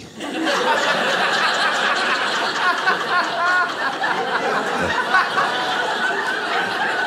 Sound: audience laughing

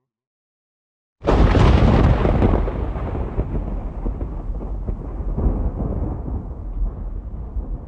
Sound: dramatic thunder

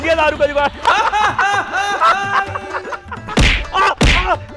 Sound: laughing

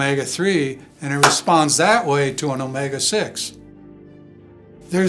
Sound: claps hands; slow cool music

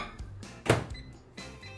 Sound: microwave beeping; closing door

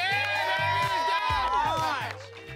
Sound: cheering

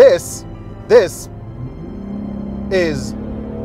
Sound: exhaust roaring

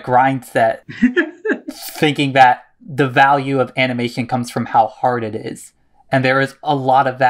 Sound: laughs

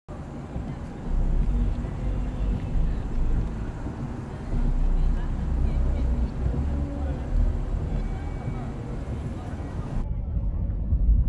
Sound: distant chatting

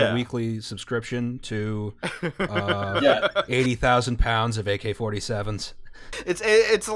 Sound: laughter

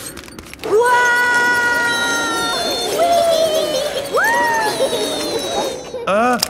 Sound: all yelling

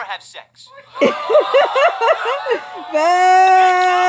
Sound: booing, shouting

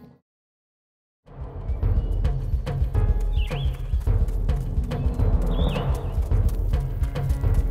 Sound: dramatic music; birds chirping

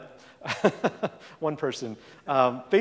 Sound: laughs

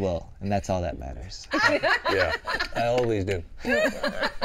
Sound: continues laughing; all laughing

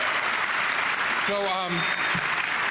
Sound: applause

